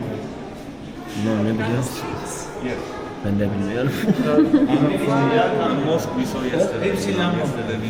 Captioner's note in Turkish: kahkaha